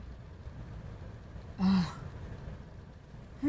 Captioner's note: sighs